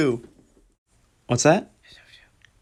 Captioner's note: whispering; whispering